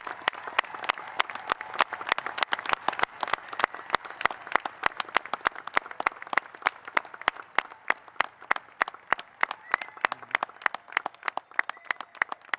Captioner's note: applause